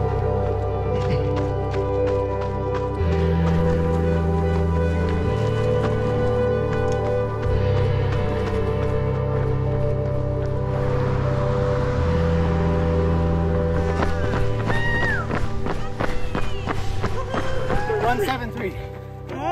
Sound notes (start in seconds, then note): 4.1 runners chattering; 7.1 footsteps crunching; 14.3 crowd cheering